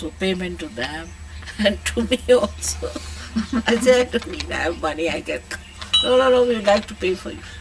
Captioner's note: shree mataji laughs